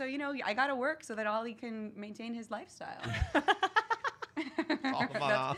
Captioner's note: laughs